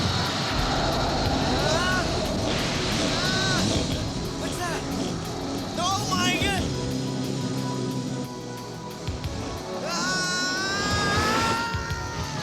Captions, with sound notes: (EXCLAIMS) What's that? Oh, my g- (SCREAMS)